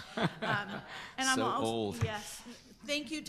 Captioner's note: chuckles